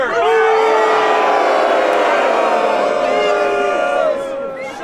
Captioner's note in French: huées